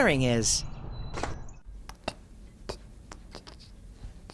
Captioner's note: birds chirping